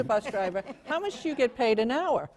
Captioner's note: laughter